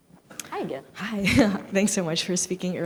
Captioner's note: giggles